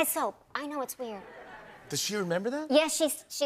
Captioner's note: light laughter